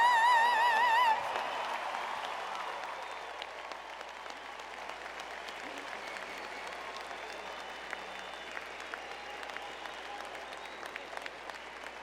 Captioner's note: applause